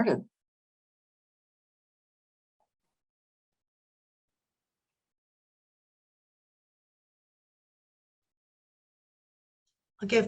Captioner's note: silence